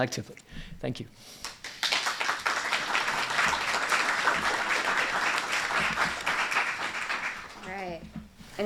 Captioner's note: applause